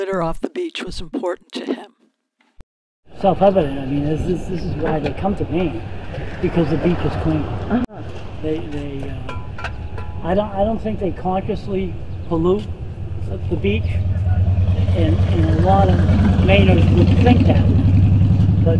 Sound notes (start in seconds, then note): 14.4 engine sound